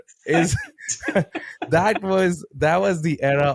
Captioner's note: both laughing